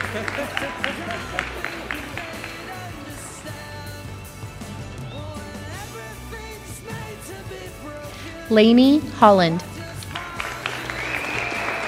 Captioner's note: applause